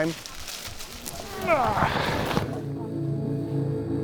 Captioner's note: grunts